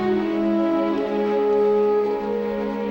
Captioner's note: none